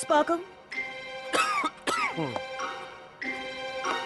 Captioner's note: coughs